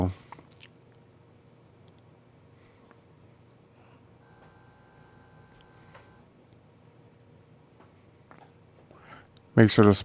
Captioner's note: silence